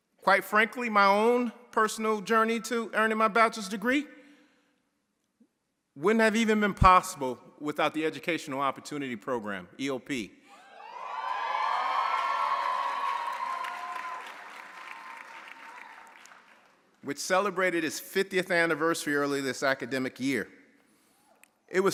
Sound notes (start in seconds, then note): 10.8 audience cheering; 11.1 audience applauding